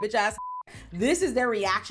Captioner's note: beep